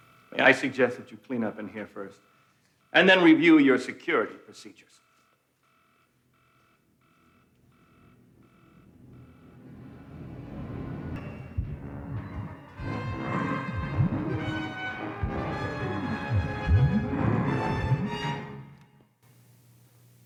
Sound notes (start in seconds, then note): 8.8 dramatic music; 12.8 Donald growling